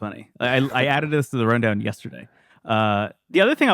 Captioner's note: laughs